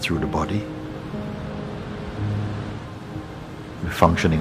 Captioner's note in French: Bruit de vagues avec la musique